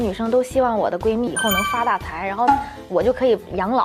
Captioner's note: earnestly